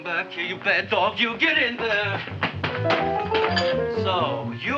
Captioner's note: Seymour crashing